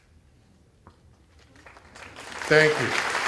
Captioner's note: applause